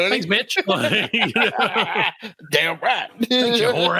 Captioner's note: laughing